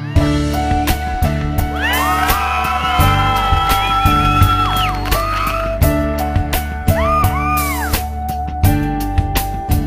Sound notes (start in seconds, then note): 1.7 cheering; 5.5 sentimental music